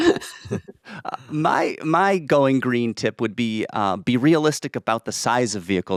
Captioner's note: laughs